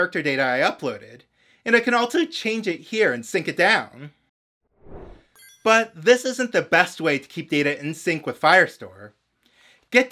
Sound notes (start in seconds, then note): 4.8 whoosh